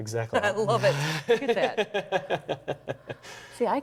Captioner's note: both laugh